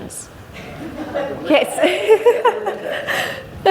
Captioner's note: laughs